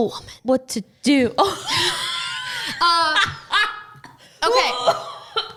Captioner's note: laughs